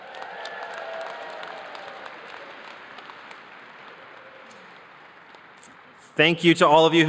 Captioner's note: cheers and applause